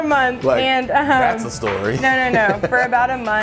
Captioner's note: laughing